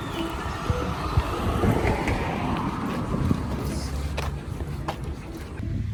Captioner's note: cars continue to pass by as music begins to fade